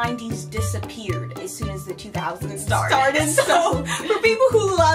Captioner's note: both laugh